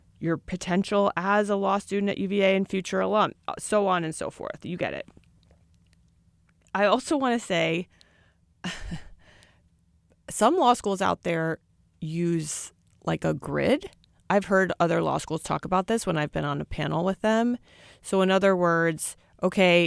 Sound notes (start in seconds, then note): 8.7 chuckles